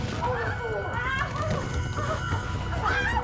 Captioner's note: scream